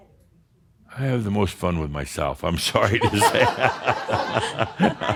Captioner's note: laughter